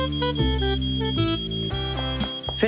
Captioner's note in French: bips électroniques du four